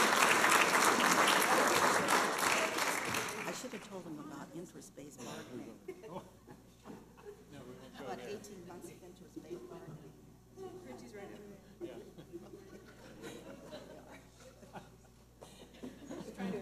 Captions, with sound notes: I shoulda told 'em about interest-based bargaining. (laughter) - No, we won't go there. - About 18 months of interest-based bargaining. - Richie's right over there. (laughter)